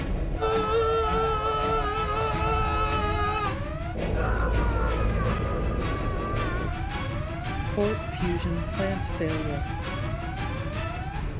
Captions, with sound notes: AAAAAAAAAAh! (Computer Voice) Port fusion plant failure.